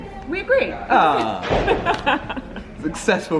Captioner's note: laughter